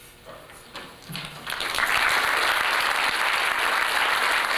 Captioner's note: applause